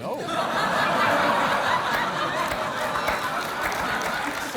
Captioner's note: applause